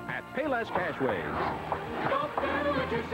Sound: whoosh; hammering, sawing, etc

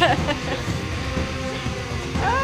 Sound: laughing

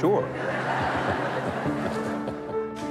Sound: crowd laughs

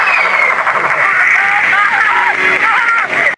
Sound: even more glitched out screaming; horrific Glitched Out Screaming

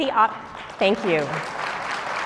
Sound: applause

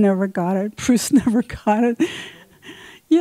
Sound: laughs

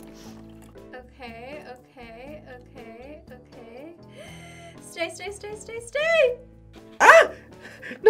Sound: gasps

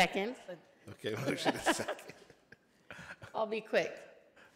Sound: laughing

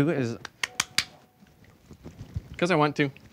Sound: tapping

